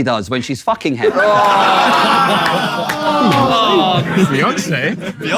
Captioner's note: people in room laughing